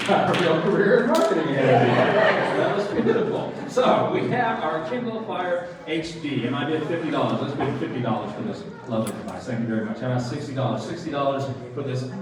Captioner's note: applause